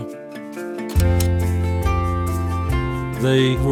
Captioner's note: upbeat guitar music; slide clicks